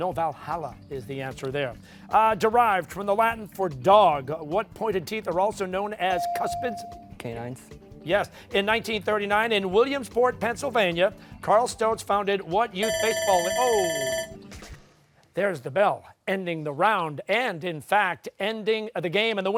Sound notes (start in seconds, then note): 12.8 bell ringing